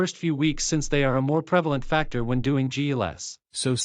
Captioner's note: none